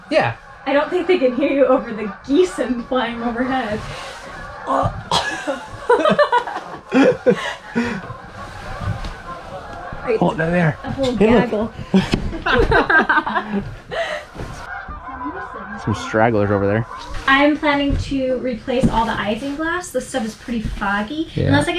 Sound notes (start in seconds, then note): 5.0 both laughs; 7.4 geese clucking; 11.1 both laugh; 14.6 geese clucking